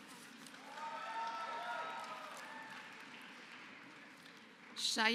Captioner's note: applause